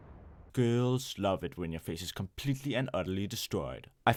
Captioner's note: bomb blows up